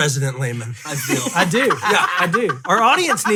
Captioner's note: laughing